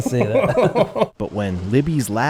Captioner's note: laughing